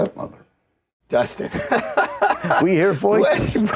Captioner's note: laughing